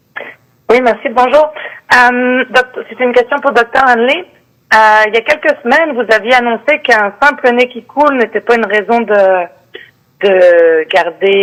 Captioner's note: speaking French